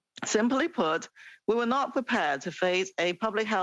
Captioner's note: speaking French